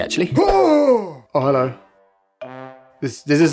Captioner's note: stunned materials silence